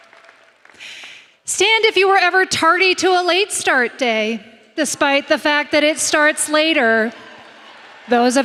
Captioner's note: applause